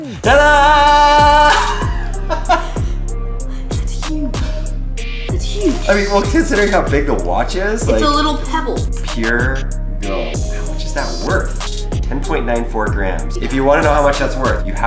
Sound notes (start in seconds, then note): 0.2 man laughs